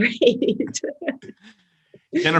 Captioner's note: laughs